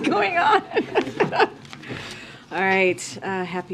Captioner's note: laughs